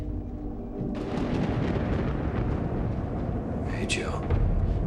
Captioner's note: thunder rumbles